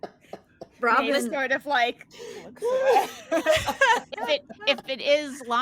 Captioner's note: cast members laughing; cast members laughing